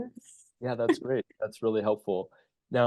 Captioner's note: chuckles